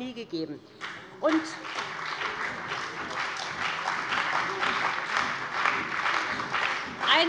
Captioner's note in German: Beifall bei dem BÜNDNIS 90/DIE GRÜNEN und der CDU